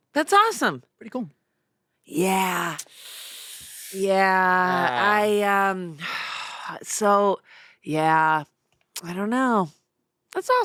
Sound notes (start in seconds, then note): 5.9 sighs